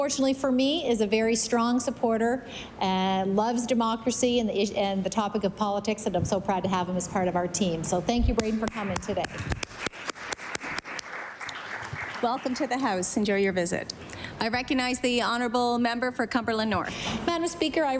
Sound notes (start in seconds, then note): 13.4 applause